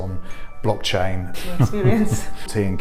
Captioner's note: laughing